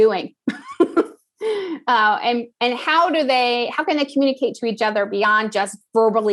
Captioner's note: laugh